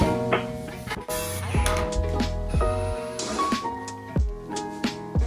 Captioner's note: drill whirring